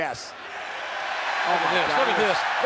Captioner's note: audience cheers